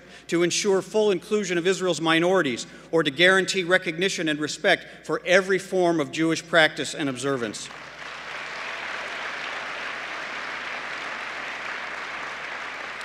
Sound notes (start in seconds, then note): 7.6 applause